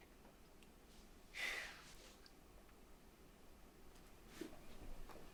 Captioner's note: Lily sighing